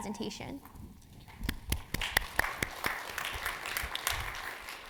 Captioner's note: audience applauding